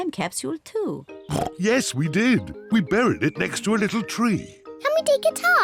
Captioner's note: oinks